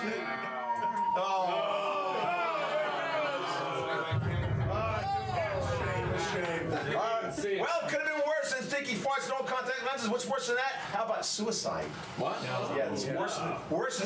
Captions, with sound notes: - GET THE AIRPLANE, GET THE AIRPLANE! GET THE CRICKETS! [BOMP DROP SOUND] EXPLOSION - WELL, IT COULD HAVE BEEN WORSE THAN STINKY FARTS AND OLD CONTACT LENSES. WHAT'S WORSE THAN THAT? HOW ABOUT SUICIDE?